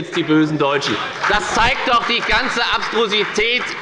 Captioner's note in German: Beifall bei der FDP